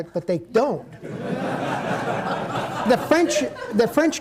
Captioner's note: audience laughing